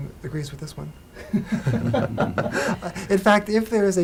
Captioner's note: Salam and Witten laugh